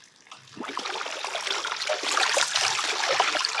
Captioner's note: slosh